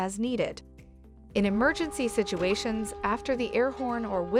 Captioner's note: car horn